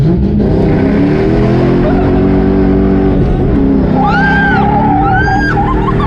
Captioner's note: the usual, complimented by giggling and cheerful screaming